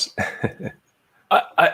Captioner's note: laughs